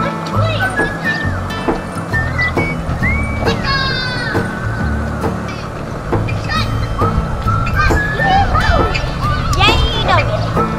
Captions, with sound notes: Let's play with this thing. - Gecko! (children playing)